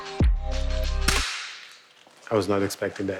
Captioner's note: loud clack